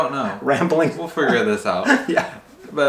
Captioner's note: laughs